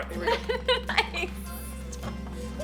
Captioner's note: laughs